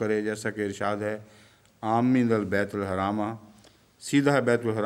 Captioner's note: Arabic